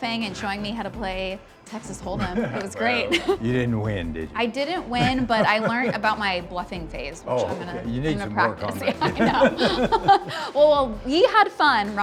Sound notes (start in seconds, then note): 4.9 laughs; 7.4 group laughs